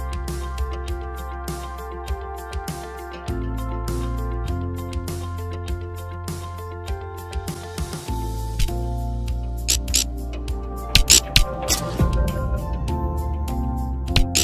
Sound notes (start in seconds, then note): 9.6 electricity arching